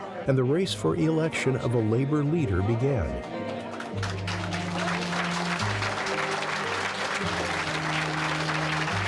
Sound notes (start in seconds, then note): 3.2 members clapping